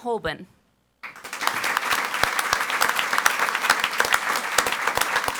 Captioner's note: audience applauds